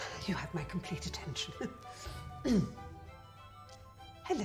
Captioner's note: clears throat